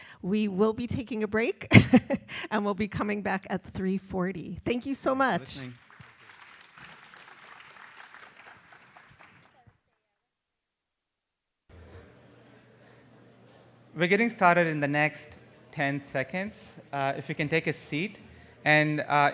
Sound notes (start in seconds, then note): 5.4 applause